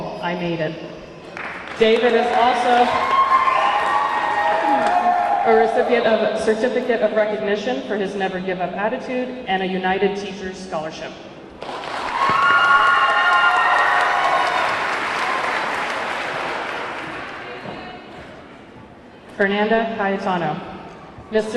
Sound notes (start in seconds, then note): 1.2 audience clapping; 11.6 audience clapping; 11.7 audience cheering